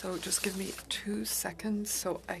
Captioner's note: speaking French